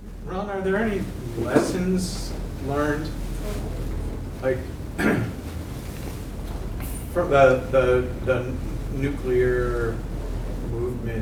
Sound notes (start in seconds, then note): 4.9 cough